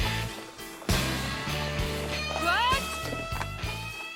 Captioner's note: Gritos